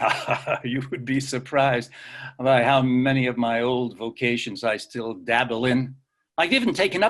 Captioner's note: laughs